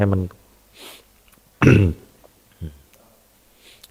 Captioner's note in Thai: เสียงสูดหายใจ